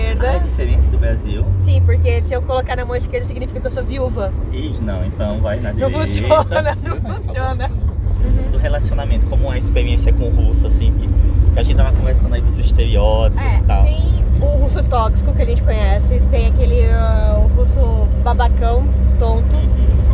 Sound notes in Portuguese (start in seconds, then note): 5.9 risos